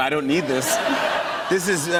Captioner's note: laughter